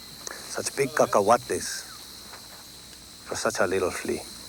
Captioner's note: speaks Spanish